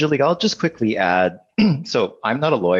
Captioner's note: clears throat